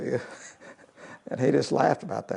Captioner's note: laugh